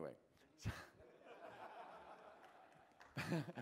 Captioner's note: applause